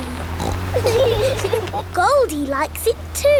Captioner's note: laughing